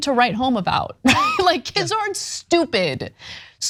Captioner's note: laugh